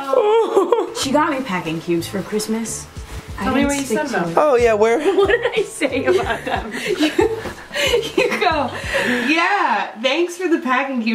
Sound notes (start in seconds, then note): 5.0 laughs